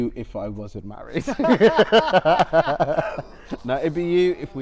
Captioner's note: laughter